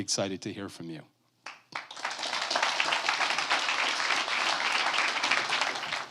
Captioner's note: applause